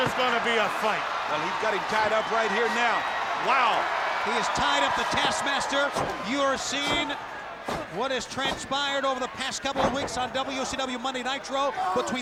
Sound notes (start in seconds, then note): 0.3 crowd cheering; 0.3 footsteps plodding; 4.3 crowd cheering; 4.4 blows thudding